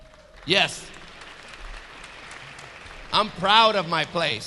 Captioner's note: audience clapping